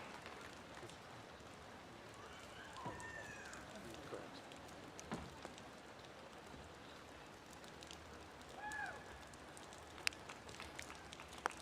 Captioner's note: applause